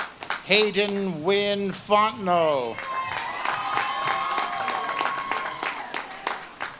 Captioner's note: audience claps and cheers